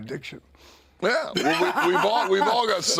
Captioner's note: DDP laughs